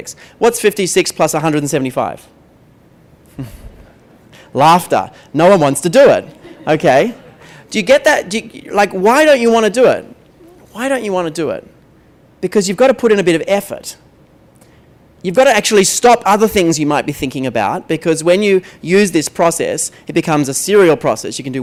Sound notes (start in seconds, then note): 3.2 laughter; 3.2 pause; 6.3 laughter